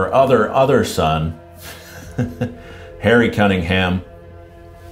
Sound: chuckling

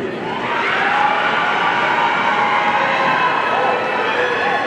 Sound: audience cheering

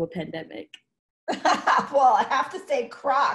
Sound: laughs

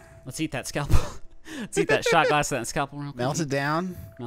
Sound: laughing

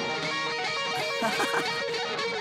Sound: laughing

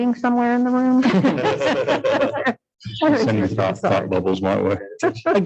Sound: everyone laughs

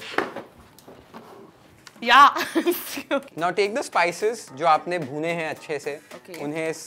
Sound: laughs

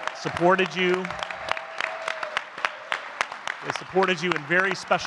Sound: audience clapping continues

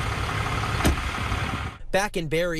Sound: nats: towing sounds

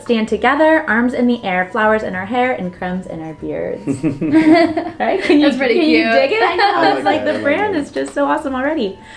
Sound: laugh

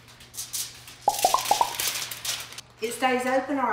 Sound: foil rustling; popping

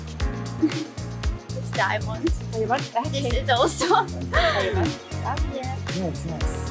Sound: laughter

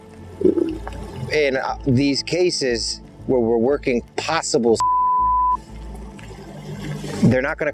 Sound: beep

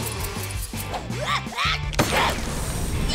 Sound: sneezing

